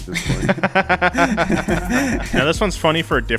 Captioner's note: laughs